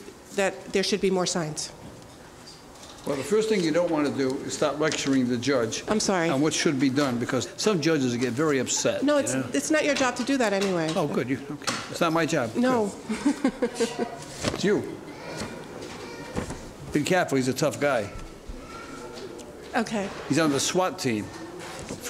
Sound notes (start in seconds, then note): 13.0 chuckles